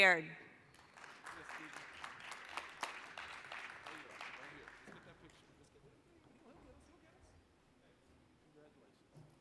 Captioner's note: applause